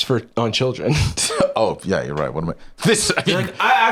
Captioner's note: laughs